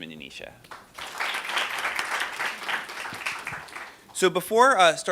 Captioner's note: applause